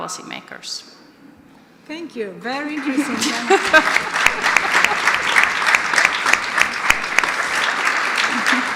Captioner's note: audience applause